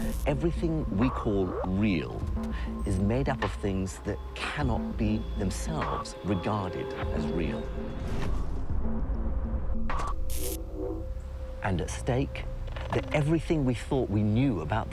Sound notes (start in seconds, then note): 9.6 static buzzes